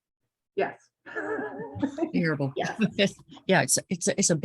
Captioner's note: laughs